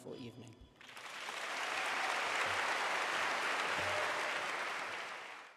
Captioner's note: applause